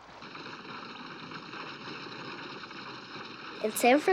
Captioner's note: stagecoach rumbling